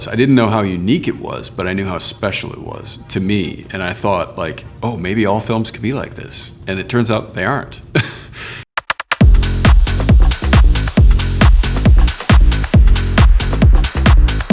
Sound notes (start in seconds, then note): 7.9 chuckles; 8.8 upbeat music